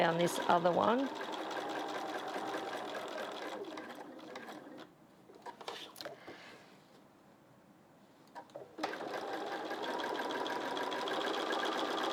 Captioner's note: sewing Machine Sounds